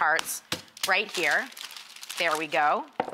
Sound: paper rustles

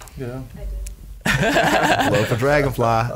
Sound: laughs

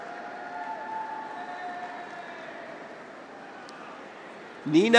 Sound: graduates cheer; audience applauds

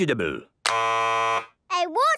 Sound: buzzes

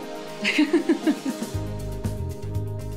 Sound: laughs

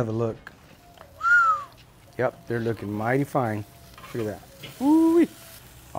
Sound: whistles

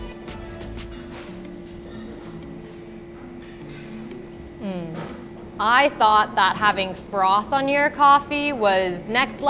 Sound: mmmm

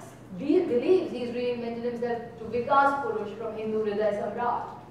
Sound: speaking in foreign language

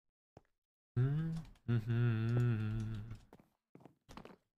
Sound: hums

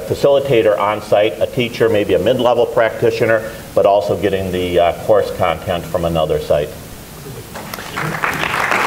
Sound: applause

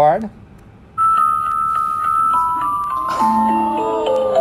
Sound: whistling

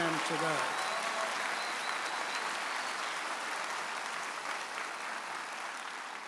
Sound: audience applauding and cheering

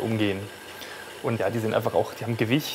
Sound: whirring

